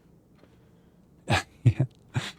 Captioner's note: laughs